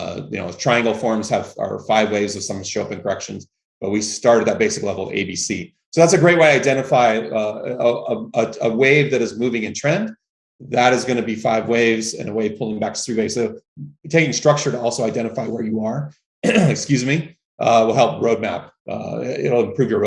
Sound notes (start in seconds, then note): 16.4 coughs